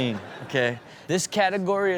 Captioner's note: audience laughs